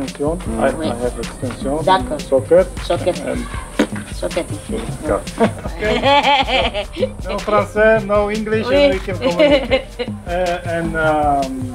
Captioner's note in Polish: rozmowa po angielsku